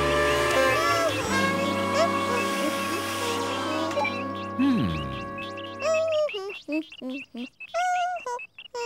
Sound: hummming

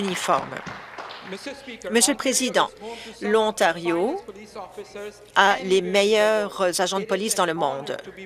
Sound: applause

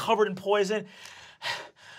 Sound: panting

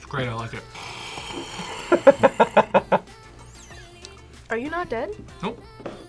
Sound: inhales; laughs

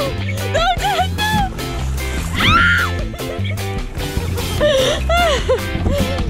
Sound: screams; laugh

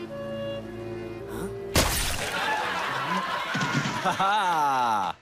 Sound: canned laughter

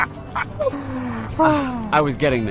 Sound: laughs

